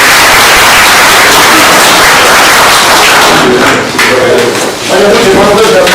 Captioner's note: oklaski